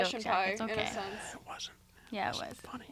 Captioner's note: whispering